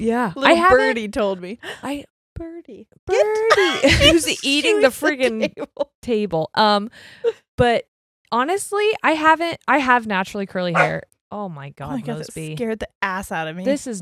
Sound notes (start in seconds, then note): 3.2 laughs; 10.7 dog barks